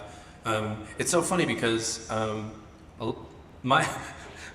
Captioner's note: laughs